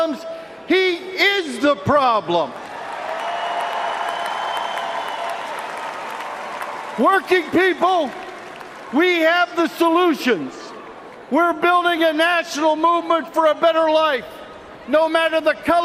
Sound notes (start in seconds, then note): 9.6 cheers and applause